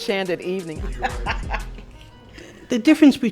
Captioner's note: laughs